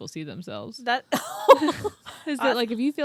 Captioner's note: both laughing